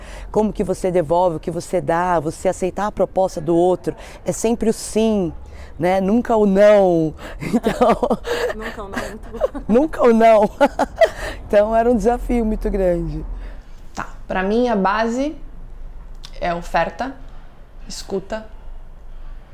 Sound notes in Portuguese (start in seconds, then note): 7.4 risos